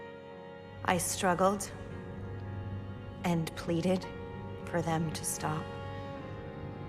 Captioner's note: voiceover